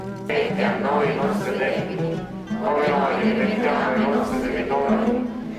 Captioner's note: people praying